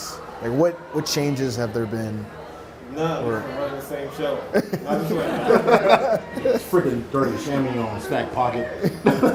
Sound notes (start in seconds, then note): 4.4 laughs